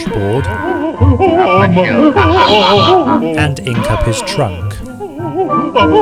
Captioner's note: elephant sobs